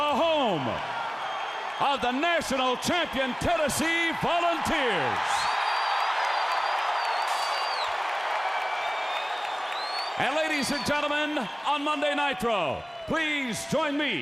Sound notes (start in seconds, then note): 5.5 crowd cheering